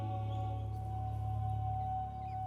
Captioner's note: birds chirping